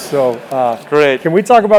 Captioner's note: laugh